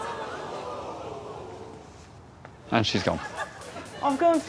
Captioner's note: audience exclaims